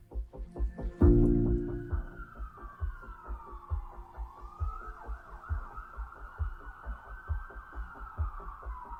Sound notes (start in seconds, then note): 0.0 soft instrumental music; 1.0 siren wailing